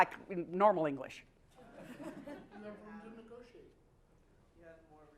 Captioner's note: laugh